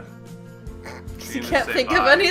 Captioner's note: chokes